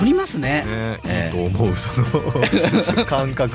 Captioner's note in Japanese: 笑い